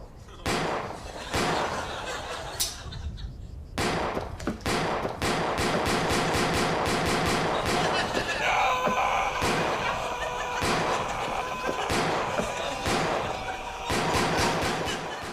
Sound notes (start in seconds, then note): 3.7 repeated gunshots; 10.2 gunshots continue, cries of "No" carry on